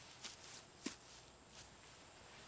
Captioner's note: none